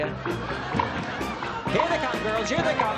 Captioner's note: cheering